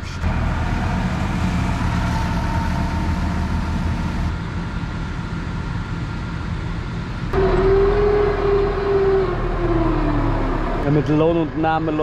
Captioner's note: engine noise